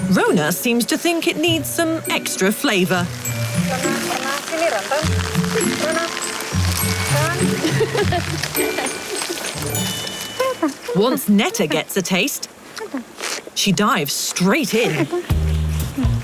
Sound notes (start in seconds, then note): 3.8 in foreign language; 7.2 women laughing